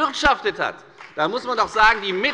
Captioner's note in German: Beifall bei der FDP